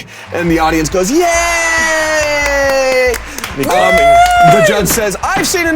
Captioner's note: audience clapping